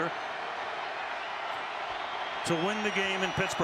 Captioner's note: cheering